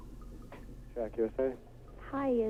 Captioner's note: man answering call